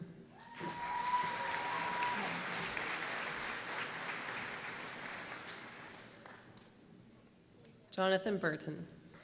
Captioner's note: applause